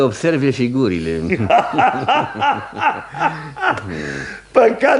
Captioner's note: they both laugh